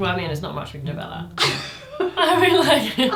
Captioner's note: laughs